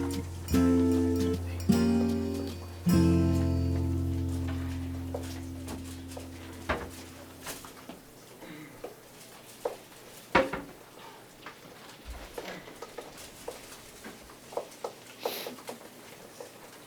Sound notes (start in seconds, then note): 6.8 students continue murmuring